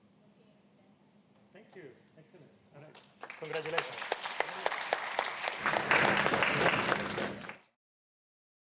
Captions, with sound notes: Thank you. All right, congratulations. [APPLAUSE]